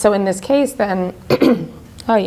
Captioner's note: coughing